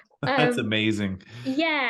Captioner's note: chuckles